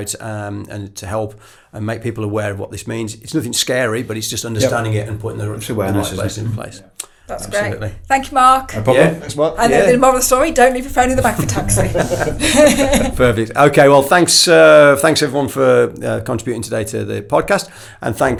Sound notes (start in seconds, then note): 12.8 laughs